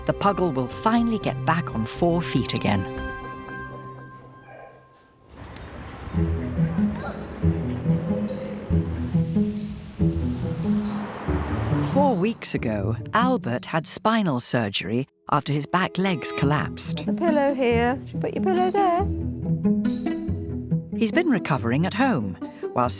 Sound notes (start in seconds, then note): 5.6 gentle music; 7.4 birds chirping; 8.7 gentle upbeat music; 10.7 car engine revving